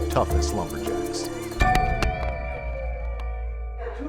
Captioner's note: loud bell ringing